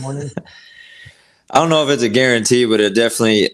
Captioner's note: laughing